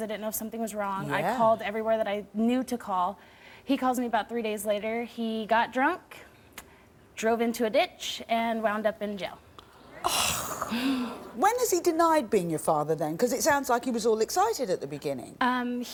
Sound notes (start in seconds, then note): 9.9 gasps